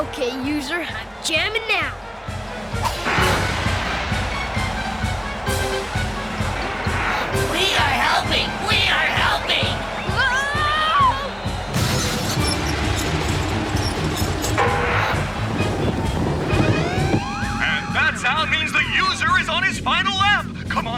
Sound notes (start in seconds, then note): 11.3 crashing; 16.4 beeping